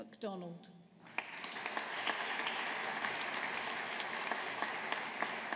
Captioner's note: audience applauding